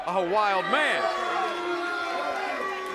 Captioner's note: crowd chatter